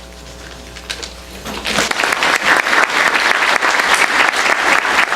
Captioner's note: applause